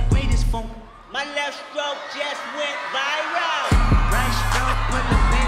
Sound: cheers and applause

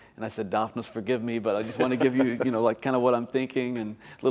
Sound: laughter

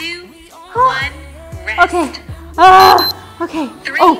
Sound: beeps

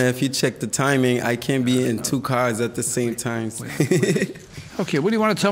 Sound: laughs

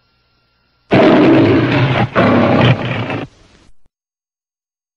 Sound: Leo the Lion roars; silence

